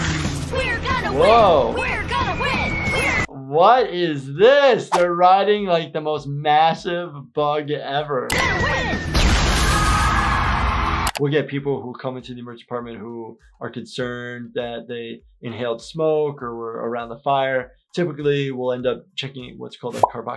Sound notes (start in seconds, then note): 8.8 bug whistling, exploding